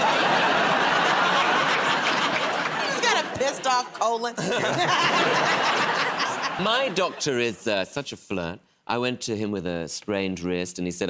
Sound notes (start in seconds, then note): 0.0 laughter; 4.3 laughs; 4.5 laughter